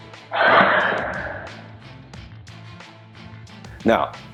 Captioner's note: loud whoosh